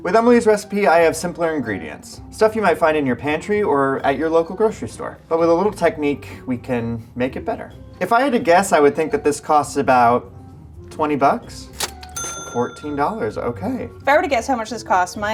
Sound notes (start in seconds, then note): 11.7 cash register ringing